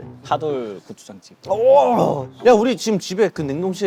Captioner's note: huge reaction